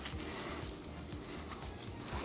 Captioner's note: eating sounds; laughs